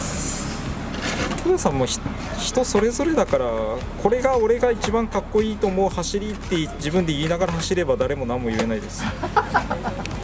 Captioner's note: laughs